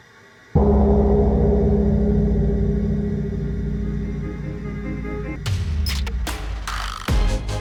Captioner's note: gong sound